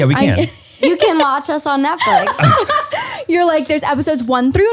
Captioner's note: laughs